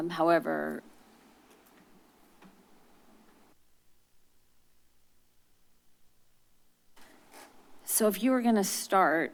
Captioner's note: silence